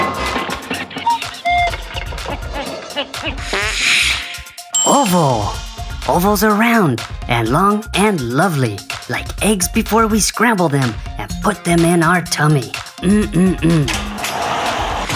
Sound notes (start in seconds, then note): 1.0 whistle; 3.3 fart